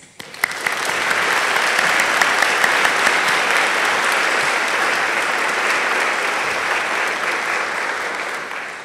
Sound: applause

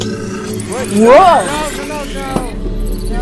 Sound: electrical static

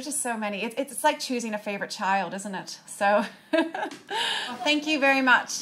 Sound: chuckles

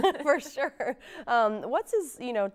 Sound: laughs

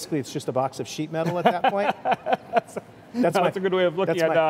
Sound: laughs

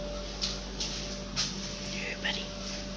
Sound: whispers

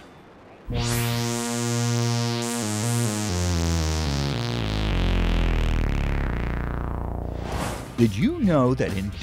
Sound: sound Effects

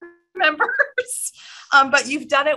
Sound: laughter

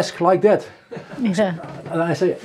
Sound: people laughing

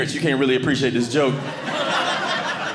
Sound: audience laughing

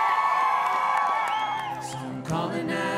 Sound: cheers and Applause

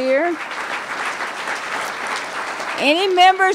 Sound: applause

